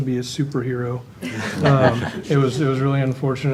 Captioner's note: panel laughs